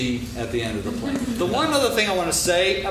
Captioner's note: laughing